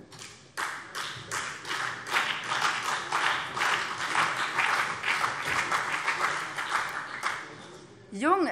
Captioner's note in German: Beifall BÜNDNIS 90/DIE GRÜNEN und CDU